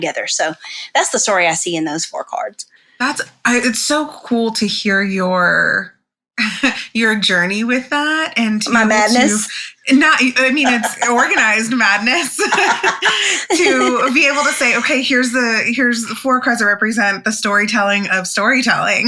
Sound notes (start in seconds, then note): 10.4 laughs